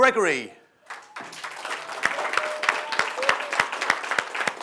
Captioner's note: audience applauding